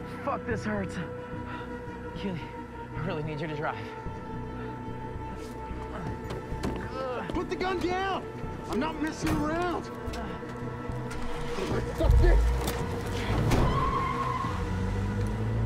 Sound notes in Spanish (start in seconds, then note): 4.0 Josh gime; 11.0 Motor acelerando; 13.6 Ruedas chirriando